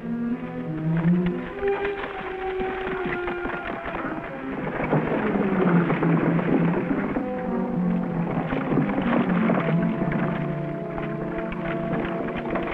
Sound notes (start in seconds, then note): 0.8 horses trotting; 4.4 wagon wheels rumbling